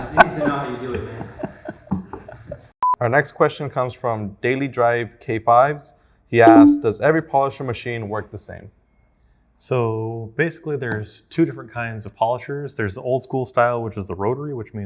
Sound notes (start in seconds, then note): 0.0 laughing